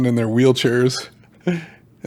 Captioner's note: laugh